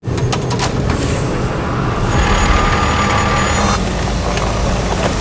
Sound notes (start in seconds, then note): 0.1 tow truck rumbling